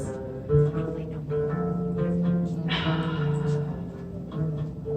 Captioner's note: stumbles upon words and takes a very deep breath